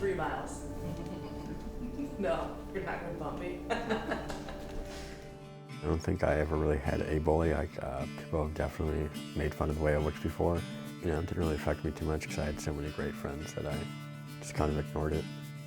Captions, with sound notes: - Three miles. No, you're not gonna bump me? (laughing) - I don't think I ever really had a bully. People definitely made fun of way I looked before. You know, it didn't really affect me too much because I had so many great friends that I just kind of ignored it.